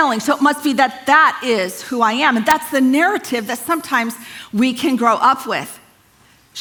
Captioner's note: none